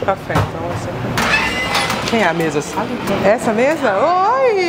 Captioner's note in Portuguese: porta abrindo